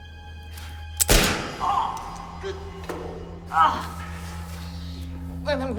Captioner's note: Mark cries out; loud gunshot